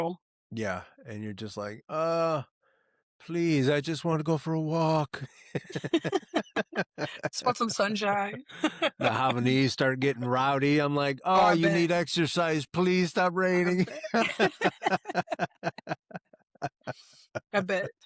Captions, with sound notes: Yeah, and you're just like, oh, please. I just wanna go for a walk. (Laughing) Spots on sunshine. The Havanese start getting rowdy. I'm like, oh, you need exercise, please stop raining. (Laughing) A bit.